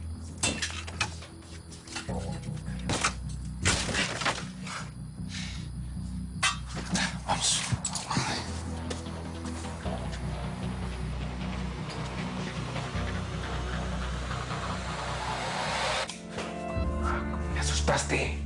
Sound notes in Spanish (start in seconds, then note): 0.1 Ruido al forcejear; 4.3 Ruido al romper la cerradura